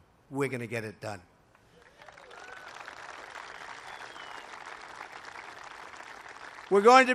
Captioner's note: applause